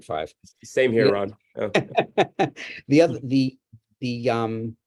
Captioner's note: laughs